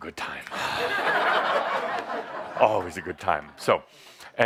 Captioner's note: laughter